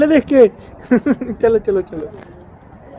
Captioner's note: laugh